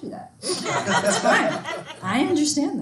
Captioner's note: students laughing